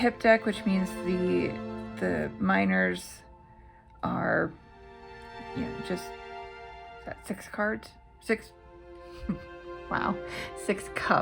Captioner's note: laugh